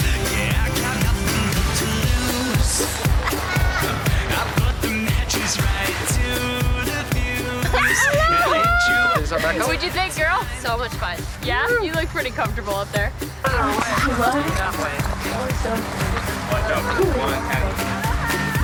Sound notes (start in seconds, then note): 7.7 screams; 13.5 upbeat music